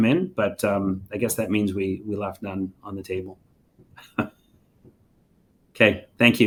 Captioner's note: chuckles